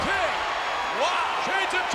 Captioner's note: crowd cheers